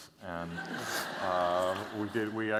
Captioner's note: laughter